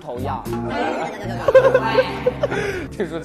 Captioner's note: laughing out loud